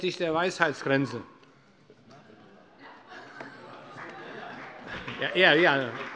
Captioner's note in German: Heiterkeit bei Abgeordneten der CDU – Allgemeiner Beifall